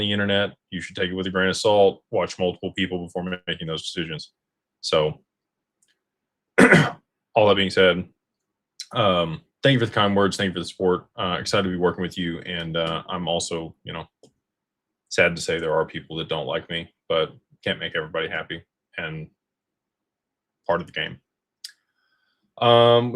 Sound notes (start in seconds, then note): 6.6 clears throat